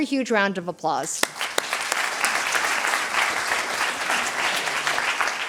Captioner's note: applause